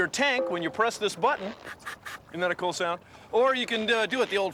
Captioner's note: <i> air hissing</i>